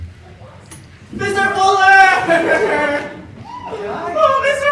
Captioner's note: crying